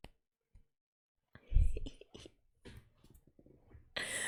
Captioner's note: delighted giggle